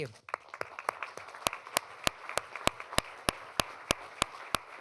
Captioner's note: applause